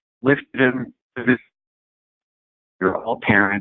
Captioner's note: distorted audio